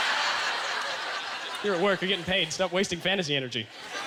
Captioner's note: audience laughter